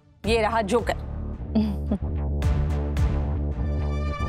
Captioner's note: chuckles